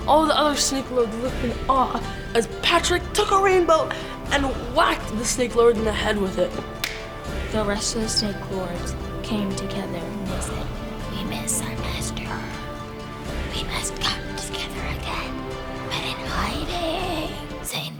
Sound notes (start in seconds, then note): 6.6 snapping sound